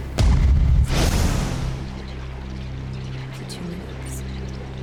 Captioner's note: voices whispering